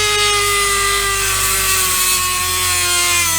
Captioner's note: saw buzzing